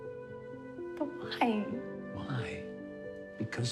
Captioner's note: voice breaking